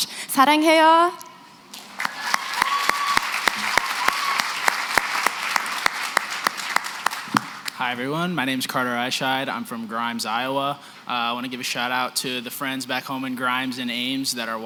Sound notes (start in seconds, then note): 0.3 non-english; 1.7 applause